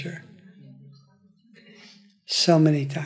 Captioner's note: audience affirming